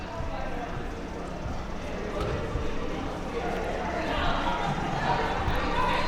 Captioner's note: spectators and players chattering